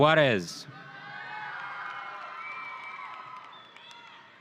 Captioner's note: audience cheering